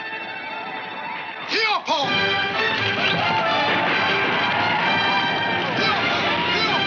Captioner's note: Indian speaking in foreign language